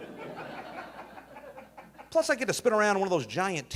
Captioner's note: audience laughing